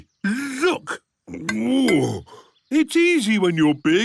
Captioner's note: grunts